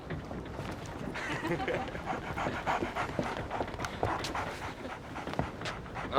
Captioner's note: laughter